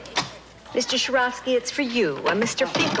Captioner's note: none